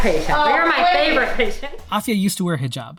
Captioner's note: laughs